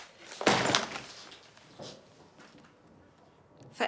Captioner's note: whumms